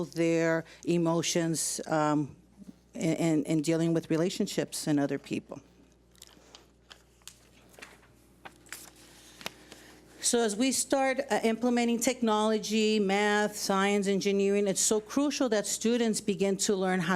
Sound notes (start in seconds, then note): none